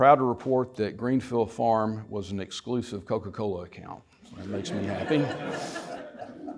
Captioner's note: laughter